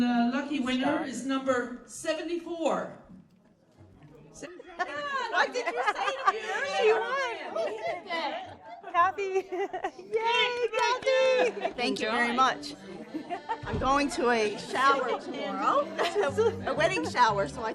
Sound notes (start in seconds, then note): 3.6 indistinct chatter; 4.4 laughing